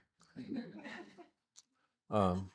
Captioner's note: audience laughing